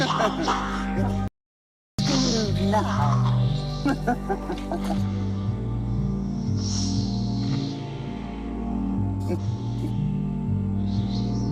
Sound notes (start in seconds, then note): 0.1 snake hissing; 3.8 laughing; 5.4 dramatic music; 8.1 snake hissing; 11.3 dramatic music